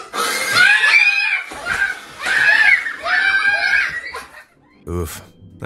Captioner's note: kids screaming